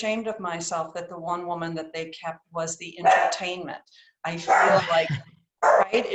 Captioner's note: barking in background